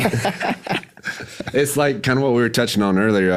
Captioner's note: all laugh